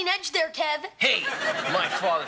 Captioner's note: audience laughing